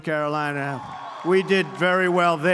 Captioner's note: applause